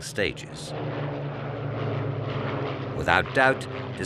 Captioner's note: plane roaring